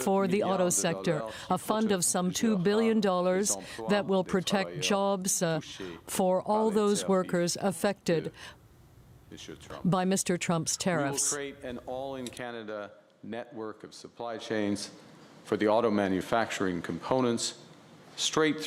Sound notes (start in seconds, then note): 8.2 speaking French